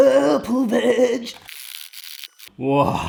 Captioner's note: metal scraping